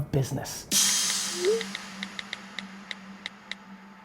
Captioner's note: phone texting